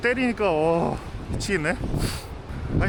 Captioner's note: sniff